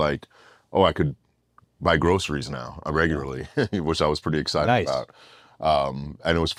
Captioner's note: laugh